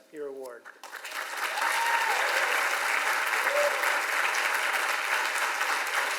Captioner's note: audience applauds and cheers